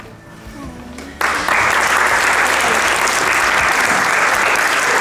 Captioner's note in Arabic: الضيوف يصفقون